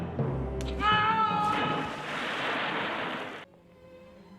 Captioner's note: dramatic music; splash